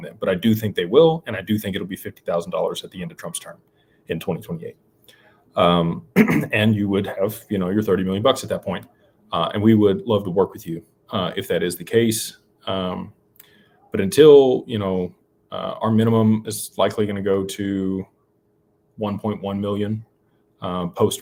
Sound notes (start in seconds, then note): 6.1 clears throat